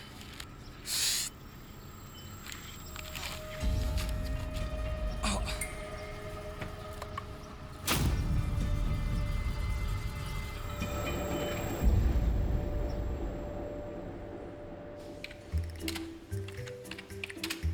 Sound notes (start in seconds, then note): 5.1 groans